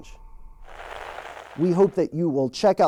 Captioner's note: static crackles